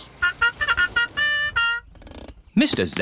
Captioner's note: horn tooting